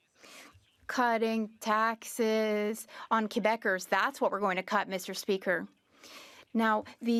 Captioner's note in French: voix de l'interprète